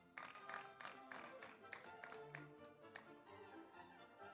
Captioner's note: audience applauds